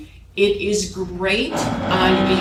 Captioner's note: tool motor whirring